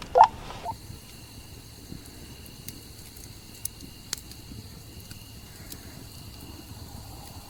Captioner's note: fire crackling; radio beeping; crickets chirping